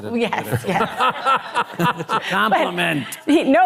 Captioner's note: laughs